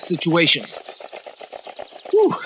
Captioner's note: wood scratching and rattling